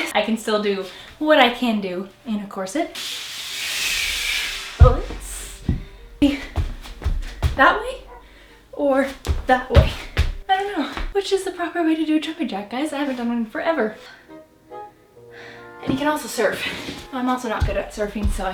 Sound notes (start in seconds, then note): 3.0 sliding on floor; 14.2 panting